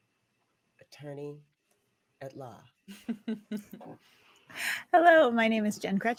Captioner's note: chuckling